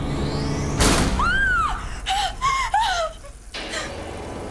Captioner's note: door slams; Kara screams